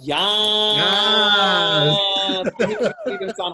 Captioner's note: laughing